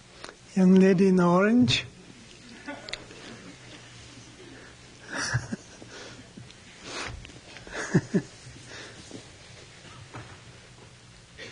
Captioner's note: laughs